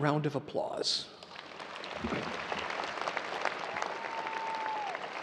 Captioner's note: audience applauding